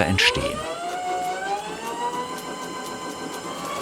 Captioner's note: rising high-pitched whirring